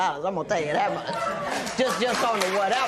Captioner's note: laughter